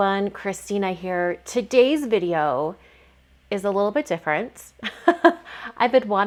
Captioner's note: laughs